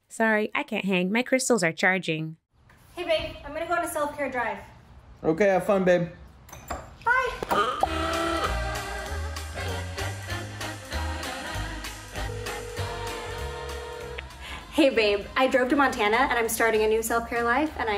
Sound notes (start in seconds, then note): 8.1 upbeat music; 12.2 phone ringing